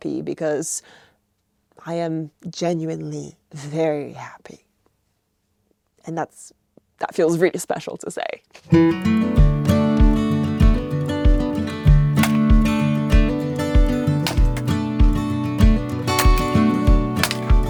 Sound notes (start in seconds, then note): 8.6 lively guitar music; 12.0 logs cracking